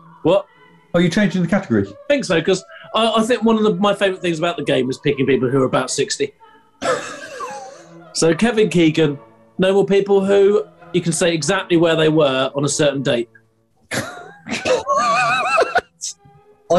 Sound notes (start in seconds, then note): 6.8 sniggering; 13.8 sniggering